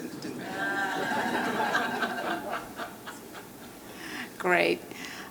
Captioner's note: laughter